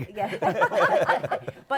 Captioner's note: laughter